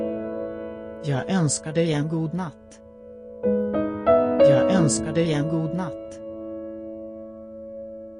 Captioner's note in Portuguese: sueco